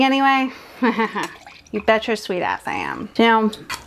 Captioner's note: chuckles